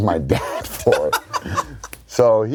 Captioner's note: laughs